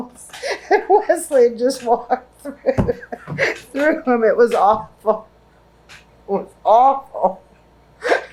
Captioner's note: laughs